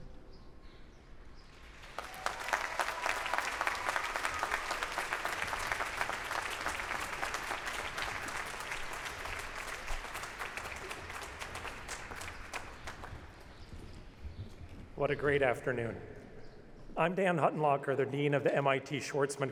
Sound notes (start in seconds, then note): 1.5 applause